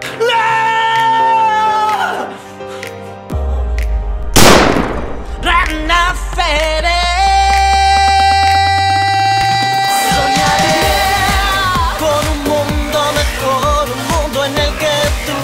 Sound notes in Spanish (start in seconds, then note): 4.3 suena un disparo